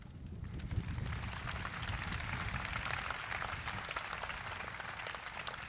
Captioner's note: crowd applauds